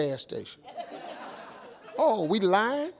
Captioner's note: audience laughs